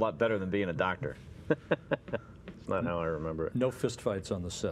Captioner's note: chuckle